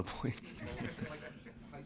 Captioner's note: laughter